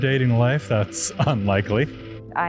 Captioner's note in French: rires